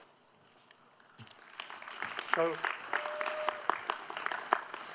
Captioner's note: audience applauding